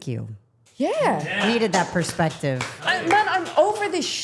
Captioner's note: applauding